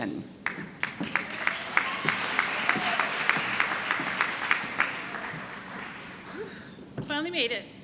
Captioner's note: applause